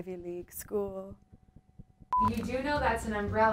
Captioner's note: monotonous high pitch sound